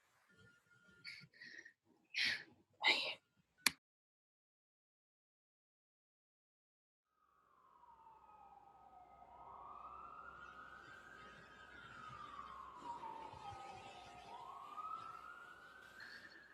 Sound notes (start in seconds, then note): 10.9 street sounds, sirens